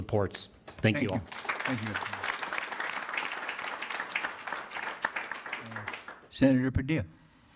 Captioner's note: attendees applauding